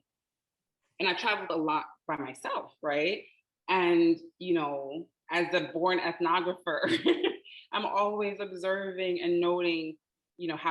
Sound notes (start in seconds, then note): 6.6 laughing